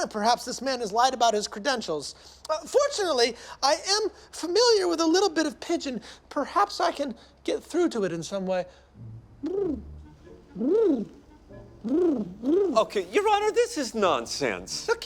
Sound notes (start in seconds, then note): 9.4 charlie cooing